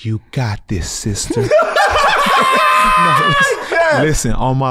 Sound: laugh

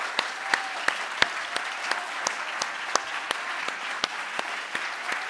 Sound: audience applauding

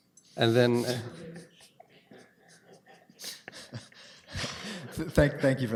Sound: chuckles

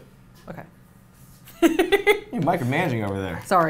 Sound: laughs

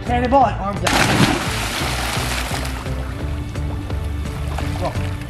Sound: water splashing

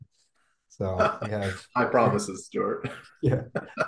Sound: laughs

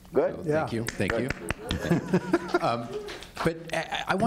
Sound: applauding and laughing

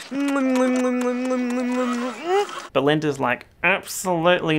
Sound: kisses

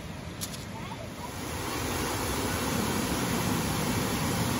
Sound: waterfall

